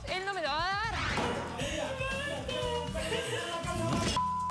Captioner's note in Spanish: sollozos